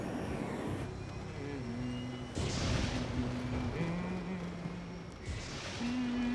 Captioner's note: humming